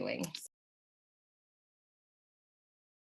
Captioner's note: silence